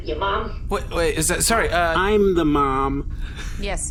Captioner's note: stammering